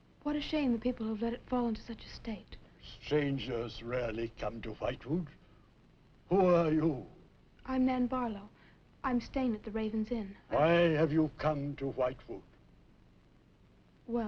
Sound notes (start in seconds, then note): none